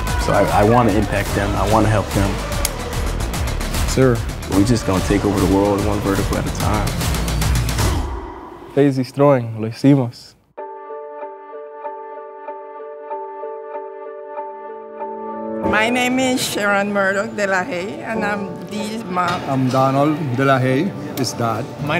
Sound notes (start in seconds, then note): 7.7 intense music; 8.7 speaking different language; 10.6 gentle music